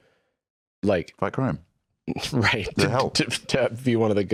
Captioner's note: laughs